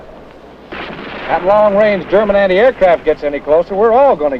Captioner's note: bomb explodes